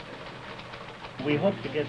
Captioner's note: machine clicks